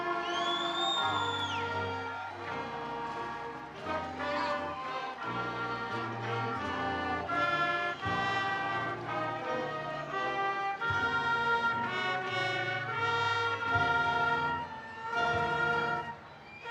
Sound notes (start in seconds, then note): 3.7 attendees cheering; 3.7 triumphant music